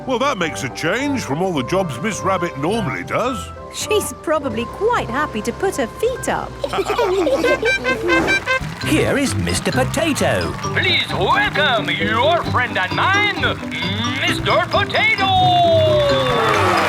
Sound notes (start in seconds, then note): 6.6 all laughing; 8.1 horn tooting